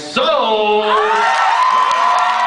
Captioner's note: cheers; cheers, applauds